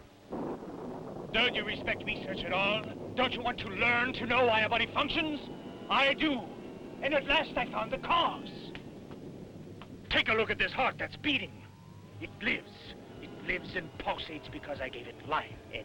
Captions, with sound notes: (thunder rumbling) - Don't you respect research at all? Don't you want to learn, to know why a body functions? I do! And at last I've found the cause! Take a look at this heart that's beating! It lives. It lives and pulsates because I gave it life.